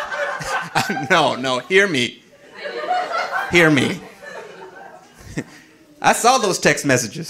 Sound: audience laughing

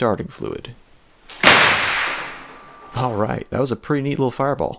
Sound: bang

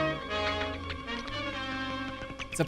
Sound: bats chirp

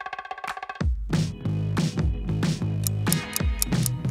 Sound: clock ticking

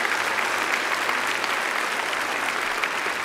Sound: applause

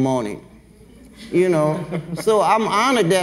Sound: everyone laughs

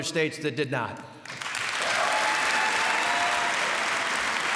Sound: cheers and applause

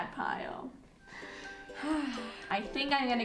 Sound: sighing

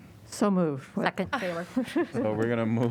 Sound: laughter

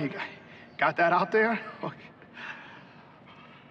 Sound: chuckles

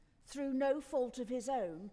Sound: none

